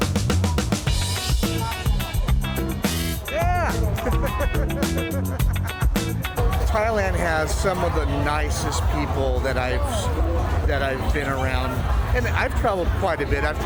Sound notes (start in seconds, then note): 0.0 upbeat music; 3.3 laughing